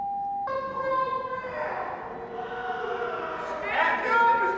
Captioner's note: yelling